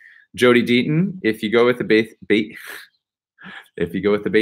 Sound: laughs

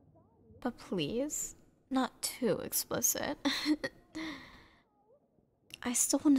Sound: soft laugh

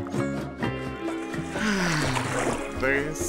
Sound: sighing

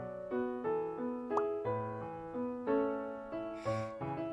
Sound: sigh

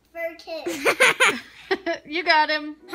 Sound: laughing

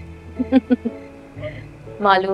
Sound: laughs

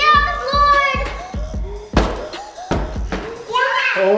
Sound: giant cube hits floor

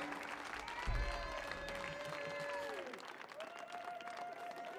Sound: audience cheering

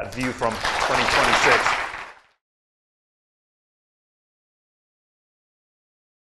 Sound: audience clapping

